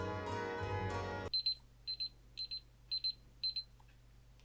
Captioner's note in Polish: odgłos alarmu